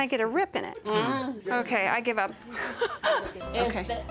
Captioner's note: laughs